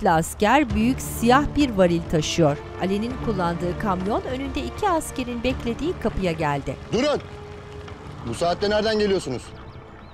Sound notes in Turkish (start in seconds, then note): 0.0 Müzik - Gerilim; 2.1 Araba sesi